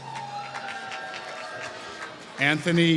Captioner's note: applause